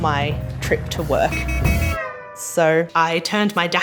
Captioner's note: horns honking